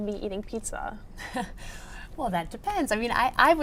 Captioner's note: laughs